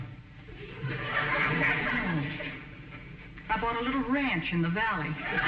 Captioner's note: audience chuckling; audience laughing